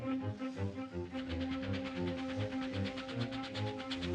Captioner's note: engine chugging